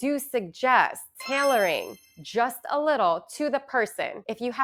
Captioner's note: chimes ringing